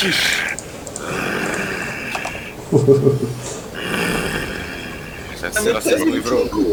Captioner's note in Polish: warczenie wilczura